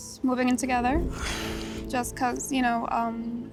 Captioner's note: sighs softly